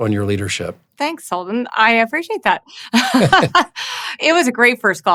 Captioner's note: laughs